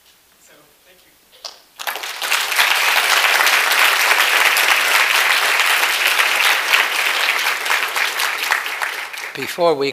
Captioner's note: applause